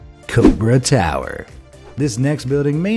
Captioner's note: graphic whooshing